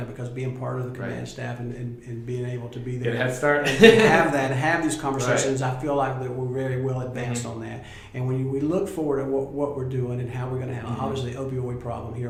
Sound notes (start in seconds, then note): 3.6 laughing